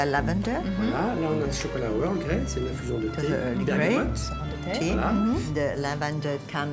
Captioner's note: speaking French